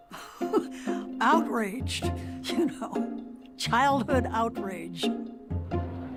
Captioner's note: laughs